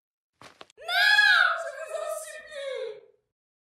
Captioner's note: cry